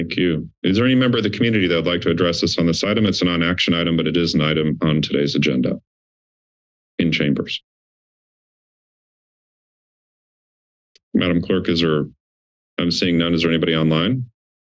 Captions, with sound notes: - Thank you. Is there any member of the community that would like to address us on this item? It's a non-action item, but it is an item on today's agenda. In chambers? [silence] Madam Clerk, is there? I'm seeing none. Is there anybody online?